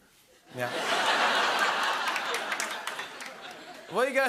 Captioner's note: laughter